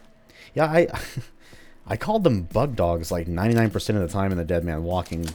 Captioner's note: chuckles